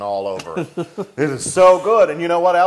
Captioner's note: laugh